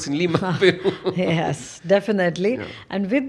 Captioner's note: laughs